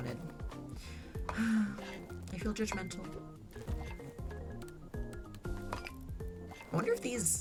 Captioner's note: sighs